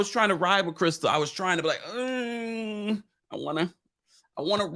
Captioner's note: groans